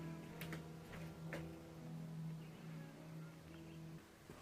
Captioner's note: footsteps plodding